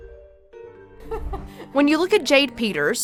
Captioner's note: chuckling